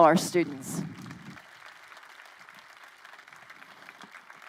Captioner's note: crowd applauding